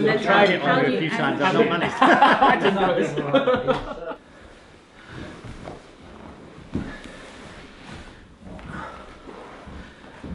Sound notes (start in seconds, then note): 1.6 laughter